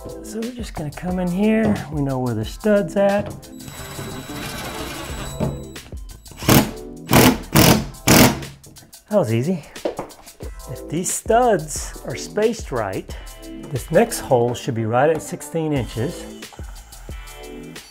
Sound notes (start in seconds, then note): 3.5 beep sound; 7.0 drilling sound